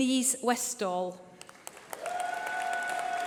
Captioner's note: applause